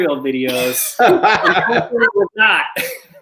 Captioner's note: chuckling